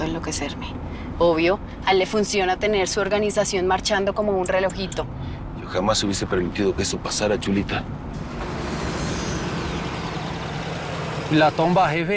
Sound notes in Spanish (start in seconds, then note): 3.2 Ruido de los vehículos